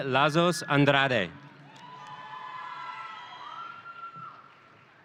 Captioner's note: audience cheering